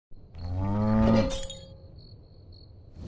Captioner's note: cow mooing; glass breaking; crickets chirping